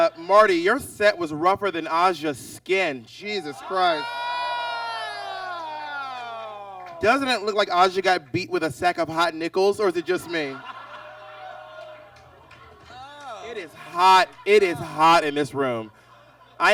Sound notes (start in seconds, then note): 4.9 exclaims; 9.8 audience laughs